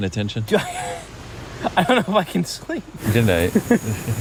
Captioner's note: laughs